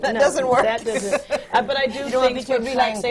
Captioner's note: laughs